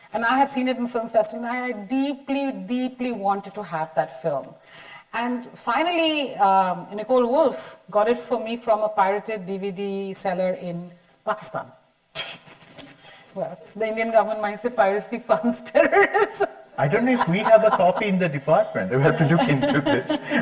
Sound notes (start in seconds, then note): 16.8 chuckles loudly